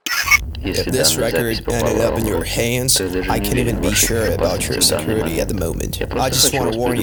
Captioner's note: static